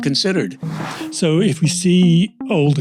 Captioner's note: air whooshing